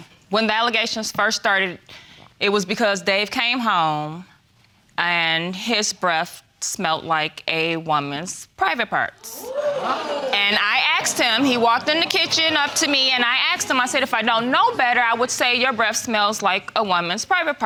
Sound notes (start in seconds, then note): 9.2 audience gasping